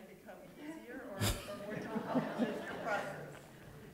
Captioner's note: laughter